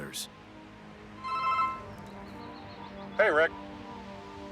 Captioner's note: phone ringing